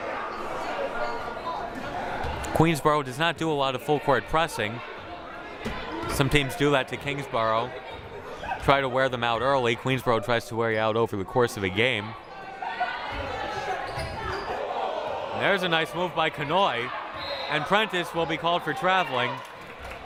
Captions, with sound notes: Queensborough does not do a lot of full-court pressing. Some teams do that to Kingsborough, try to wear them out early. Queensborough tries to wear you out over the course of the game. (crowd murmuring) There's a nice move by Kanhoye, and Prentice will be called for traveling.